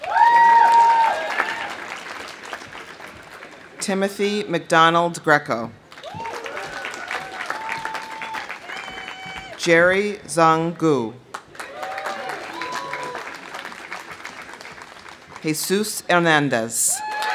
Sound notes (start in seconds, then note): 0.0 audience cheering; 0.0 audience applauding; 5.9 audience applauding; 6.0 audience cheering; 11.3 audience applauding; 11.6 audience cheering; 16.9 audience cheering; 17.0 audience applauding